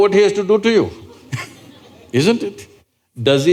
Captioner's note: laughter